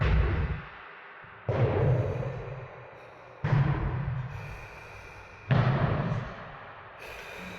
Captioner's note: thumps echoing continues; figure breathing heavily